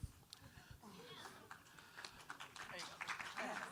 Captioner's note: audience applauds